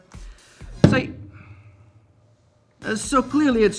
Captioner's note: camera crashing onto desk